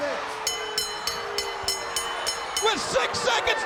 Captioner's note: bell ringing